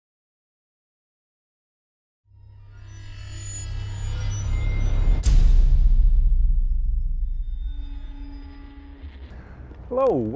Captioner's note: sound Effects